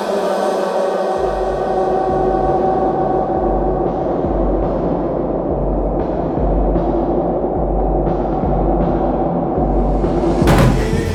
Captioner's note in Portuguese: som distorcido